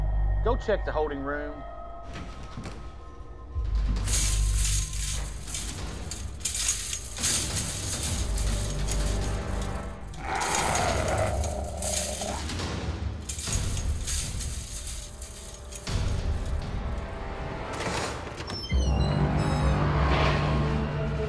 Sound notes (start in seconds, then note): 5.1 gate rattling; 10.1 dog growling; 18.3 ominous music